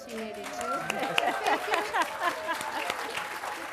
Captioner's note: applause